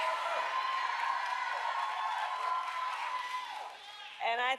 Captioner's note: applause